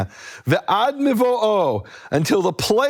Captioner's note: speaking in foreign language